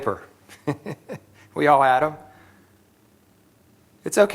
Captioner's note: laughter